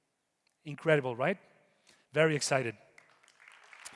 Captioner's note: audience applauding